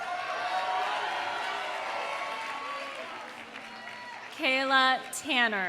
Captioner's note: audience cheering; audience applauding